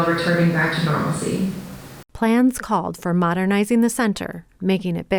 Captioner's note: none